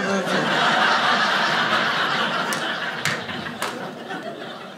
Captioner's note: audience laughing